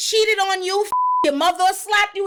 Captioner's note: beep